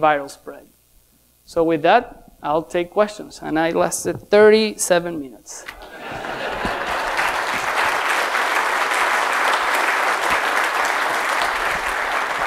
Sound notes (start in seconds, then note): 5.8 laughing; 6.4 applause